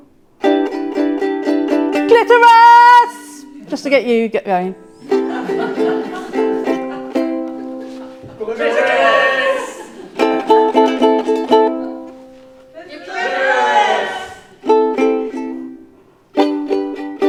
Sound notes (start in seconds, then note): 5.2 audience laughing; 6.0 ukelele music; 14.2 ukelele music